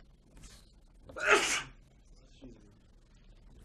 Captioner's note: student sneezes